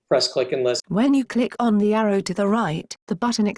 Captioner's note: british Female Computer Voice